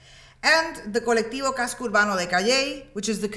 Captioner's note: speaks in Spanish